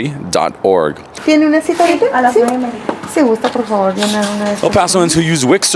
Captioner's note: women speaking in foreign language